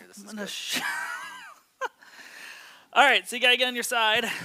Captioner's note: laughs